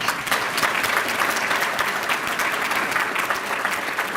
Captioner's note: applause